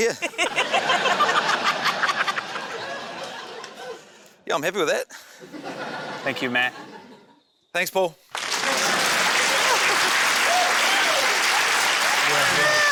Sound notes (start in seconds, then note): 0.1 laughter; 8.3 cheering, applause, laughter